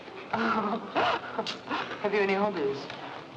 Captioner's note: laughing